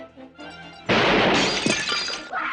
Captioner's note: crash; bang